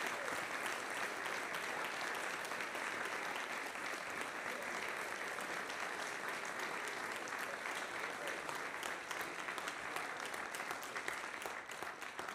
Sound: applause

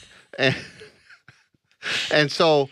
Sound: laughs

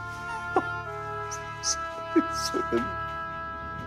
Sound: laughter voice

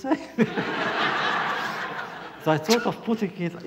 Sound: laughter

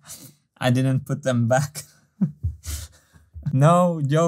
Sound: chuckles

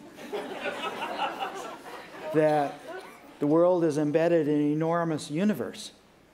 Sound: laughter

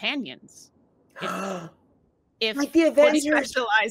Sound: Fairuza gasping

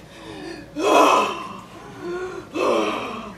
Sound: gasping sounds

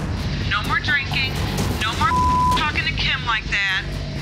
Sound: beep

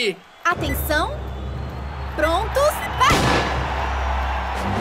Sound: bang!

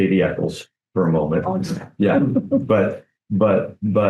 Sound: chuckling

